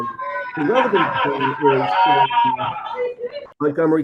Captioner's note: background cheering